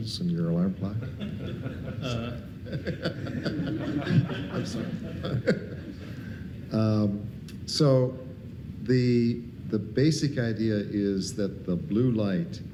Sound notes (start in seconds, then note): 1.0 audience laughing